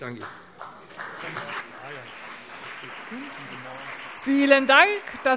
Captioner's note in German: Beifall BÜNDNIS 90/DIE GRÜNEN und CDU